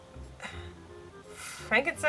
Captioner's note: sighs